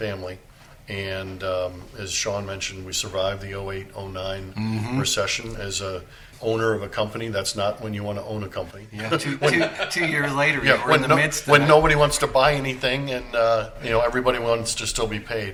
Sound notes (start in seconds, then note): 9.0 laughter